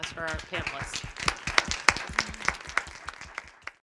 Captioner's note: crowd applauding